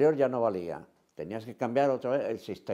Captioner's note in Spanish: none